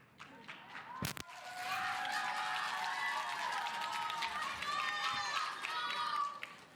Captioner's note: audience applauding; audience cheering